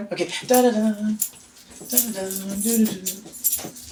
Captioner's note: humming